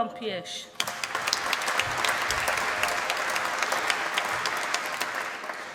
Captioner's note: applause